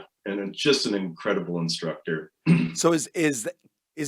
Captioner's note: clears throat